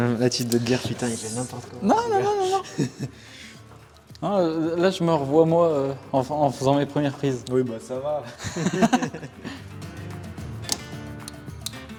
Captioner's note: laughs